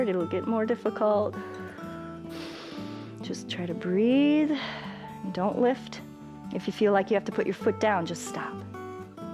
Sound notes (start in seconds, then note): 2.2 exhales; 2.2 inhales